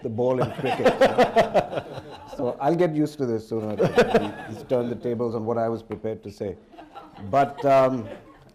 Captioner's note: laughter; laughter